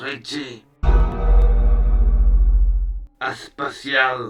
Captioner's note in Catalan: campanada